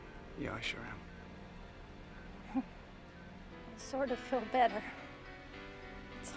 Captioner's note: chuckles